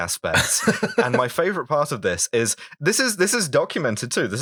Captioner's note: laughter